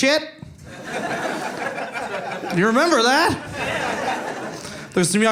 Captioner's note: audience cheering